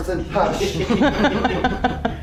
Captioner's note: laughing